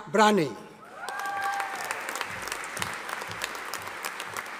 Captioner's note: audience applauding